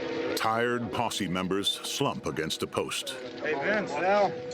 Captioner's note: haunting music; indistinct chatter